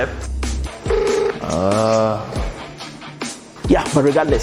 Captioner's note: phone ringing